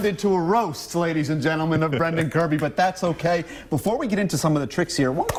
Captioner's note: laughter